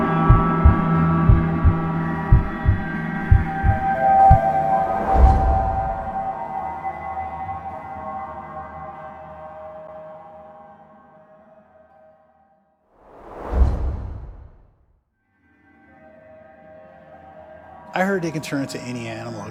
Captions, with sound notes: (eerie music) (heart beating) - I heard they can turn into any animal.